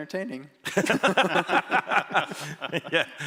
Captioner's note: laughter